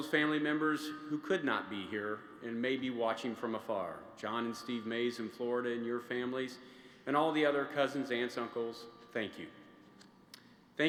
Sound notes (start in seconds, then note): none